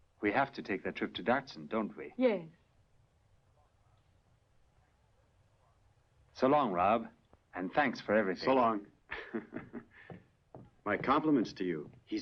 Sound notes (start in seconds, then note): 9.1 chuckling